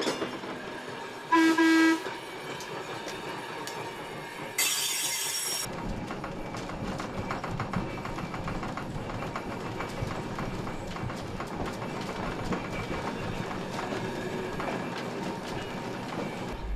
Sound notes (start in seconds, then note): 0.0 trolley bell clanging; 1.3 horn tooting